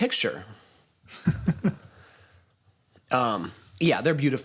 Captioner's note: chuckles